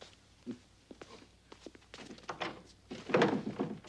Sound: rattles door

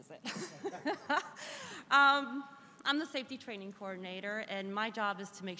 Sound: laughs

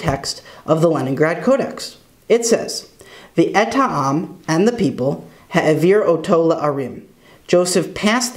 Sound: Hebrew

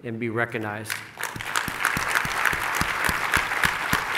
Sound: clapping

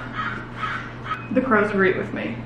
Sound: crows chirping

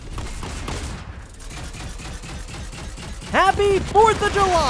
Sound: gun bangs

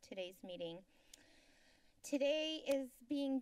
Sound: inhales

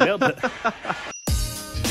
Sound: laughs; upbeat jazzy music

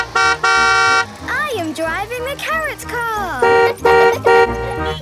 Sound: honking; honking; laughing; horns honking

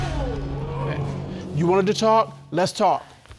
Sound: audience exclaiming

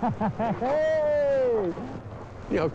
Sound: laughs

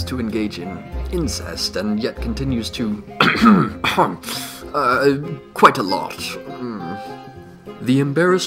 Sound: ahem, ahem

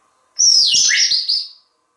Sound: bird whistle

